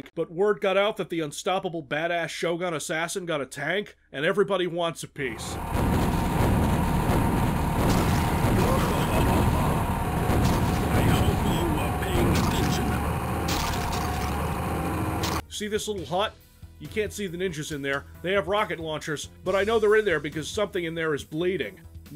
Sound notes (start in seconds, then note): 5.7 tank firing repeatedly; 13.2 Squish